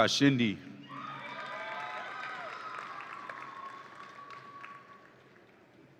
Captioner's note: audience applauds and cheers